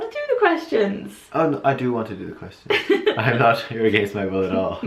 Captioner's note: laughs